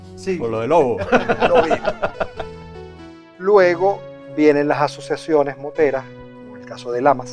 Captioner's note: laughter